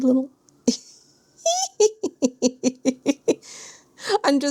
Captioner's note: giggles